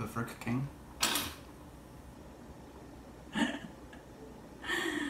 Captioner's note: laughter